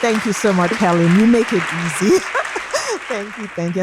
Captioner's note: laughs